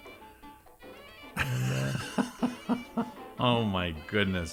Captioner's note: laughing